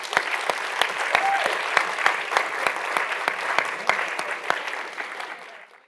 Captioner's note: audience cheering and clapping